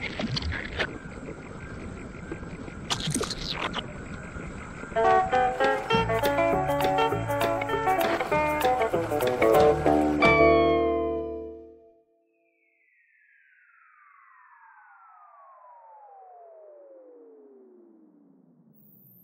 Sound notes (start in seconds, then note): 5.3 upbeat music ending; 12.8 descending high pitch tone